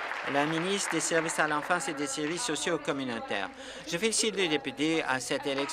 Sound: applause

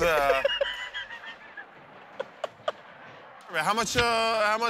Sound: laughter

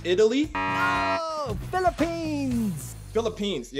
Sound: buzzer beeps

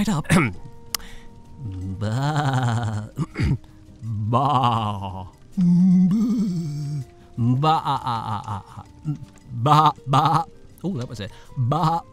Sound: terrible goat sounds

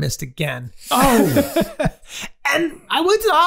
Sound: Charlie laughing

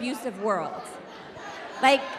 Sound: audience laughing

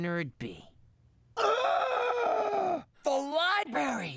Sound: dramatic Gasp

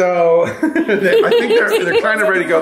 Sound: parents giggling

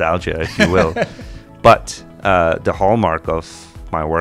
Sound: laughs

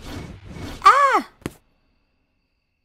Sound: thud

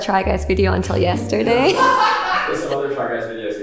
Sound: laughing

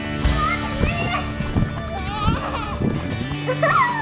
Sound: girls laughing

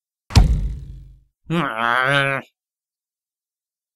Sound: growls

